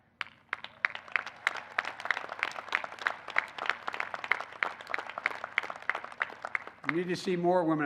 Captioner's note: applause